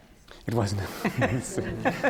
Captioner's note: laughter